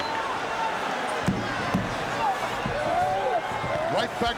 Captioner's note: crowd murmuring